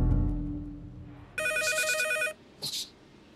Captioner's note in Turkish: Telefon çalıyor